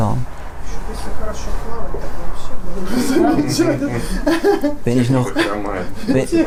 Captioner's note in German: Lachen